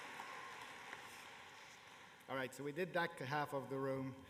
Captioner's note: cheers and applause